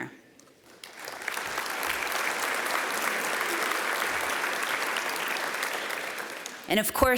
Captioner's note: applause